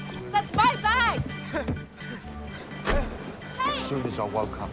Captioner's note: panting